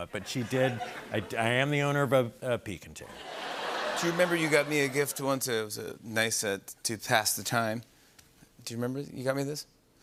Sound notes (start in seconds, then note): 3.1 laughter